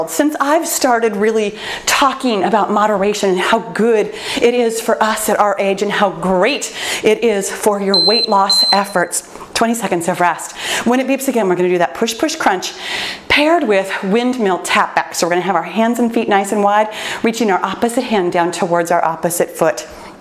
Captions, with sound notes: Since I've started really talking about moderation, how good it is for us at our age and how great it is for your weight loss efforts. (timer beeping) 20 seconds of rest. When it beeps again, we're gonna do that push, push, crunch paired with windmill tap backs. So we're gonna have our hands and feet nice and wide. Reaching our opposite hand towards our opposite foot.